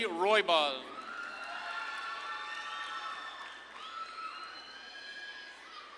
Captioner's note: audience claps and cheers